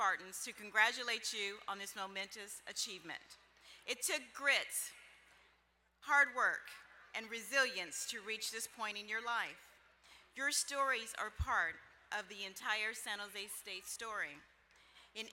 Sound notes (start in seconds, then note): none